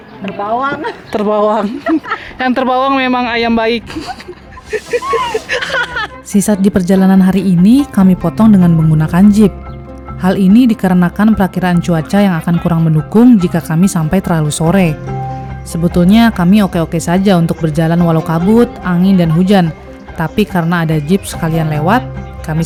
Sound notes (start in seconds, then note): 3.8 laughs